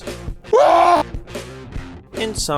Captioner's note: demoman laughing